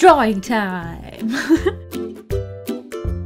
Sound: laughs

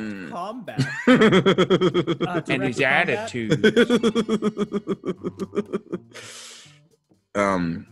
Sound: laugh

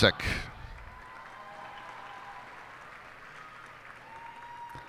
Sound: cheers and applause

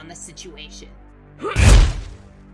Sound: fwoosh

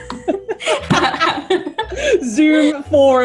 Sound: laughs

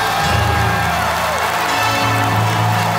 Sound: applause

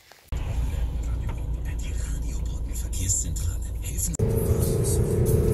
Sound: radio playing

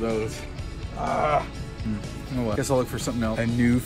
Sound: grunts

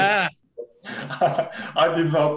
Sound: laughs

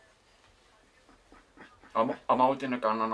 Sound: laughter

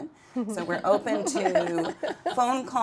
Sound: all laughing

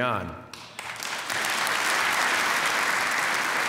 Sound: applause

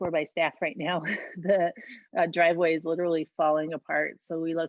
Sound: laughter

